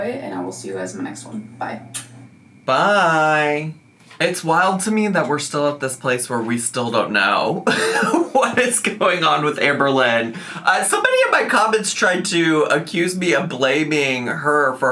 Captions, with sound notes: and I will see you as my next one, bye. (lips smacking) - Bye! It's wild to me that we're still at this place where we still don't know (laughing) what is going on with Amberlynn. Somebody in my comments tried to accuse me of blaming her